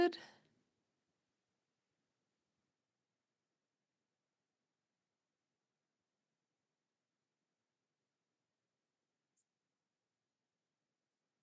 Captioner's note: silence